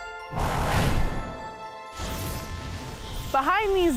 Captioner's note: gentle music; whooshing